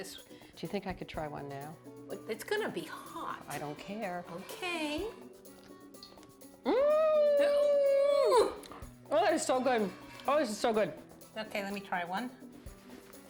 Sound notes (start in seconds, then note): 6.6 screams